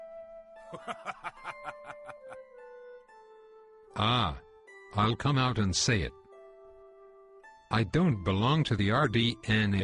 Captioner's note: chuckle